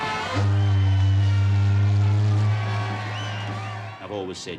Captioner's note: ship horn blaring